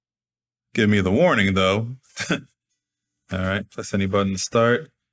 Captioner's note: chuckles